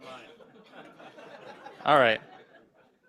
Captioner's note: laughter